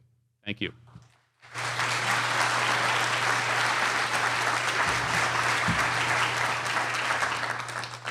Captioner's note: applause